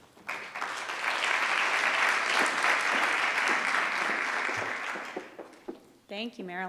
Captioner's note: applause